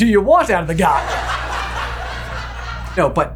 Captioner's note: canned laughter